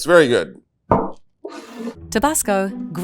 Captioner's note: bottle thuds and scrapes